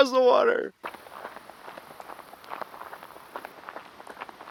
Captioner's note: footsteps